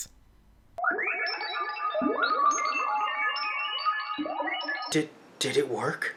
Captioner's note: weird Sci-Fi Noises Yet Again